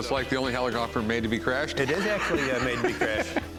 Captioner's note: laughs